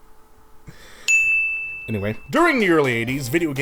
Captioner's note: deep breath